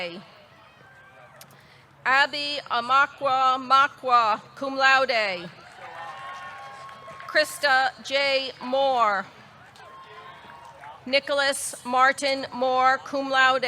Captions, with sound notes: Abbie Amaka Mokwuah, cum laude. (audience cheering) (audience clapping) Christa Jay Moore. (audience cheering) Nicholas Martin Moore, cum laude.